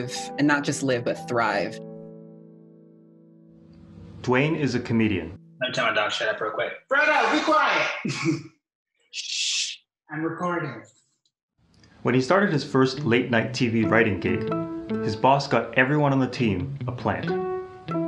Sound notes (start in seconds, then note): 2.5 beat